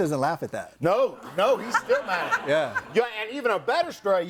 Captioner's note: group laughs